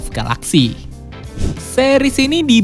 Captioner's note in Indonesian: suara transisi